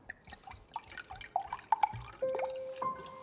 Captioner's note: wine pouring; sad piano music